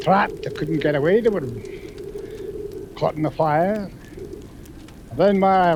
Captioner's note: flames crackling